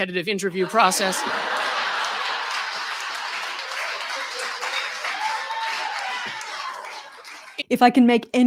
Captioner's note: laughter